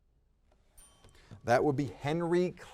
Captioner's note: timer dinging